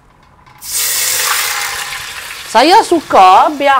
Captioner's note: sizzling sound